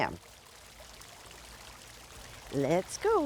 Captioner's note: water running